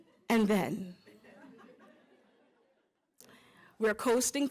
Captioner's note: laughter